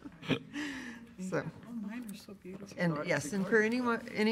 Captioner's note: laughing